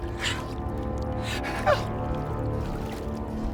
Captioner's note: whimpers